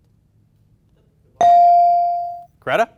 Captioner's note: bell dings